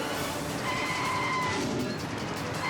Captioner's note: tires screeching; dramatic music continues